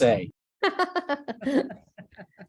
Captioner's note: chuckles